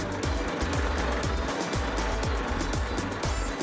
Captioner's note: tractor rumbling